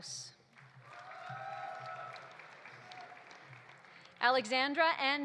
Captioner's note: audience applauding; audience cheering